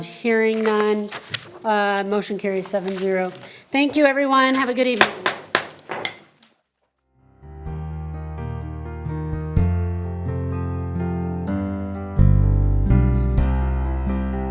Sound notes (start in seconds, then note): 4.9 gavel bangs; 8.1 bright music